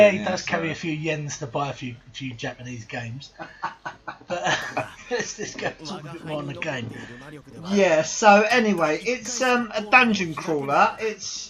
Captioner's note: both laugh